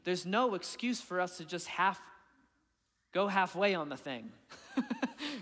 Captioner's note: chuckling